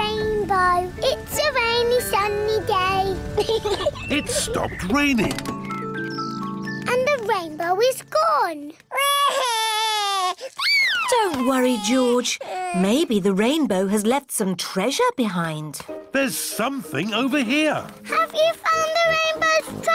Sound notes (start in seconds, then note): 3.4 peppa pig laughs; 8.9 cries